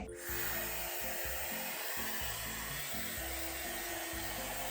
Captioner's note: hairdryer whirring